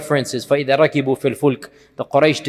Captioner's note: Arabic